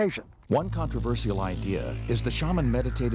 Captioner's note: voiceover